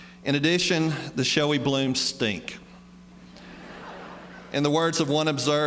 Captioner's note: laughter